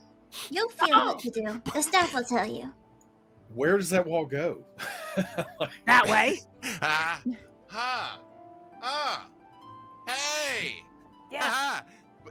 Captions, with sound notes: (chuckling) - You'll feel what to do. The staff will tell you. - Where does that wall go? (chuckling) - That way. Uh, ah, ah. Hey! Ha, ha.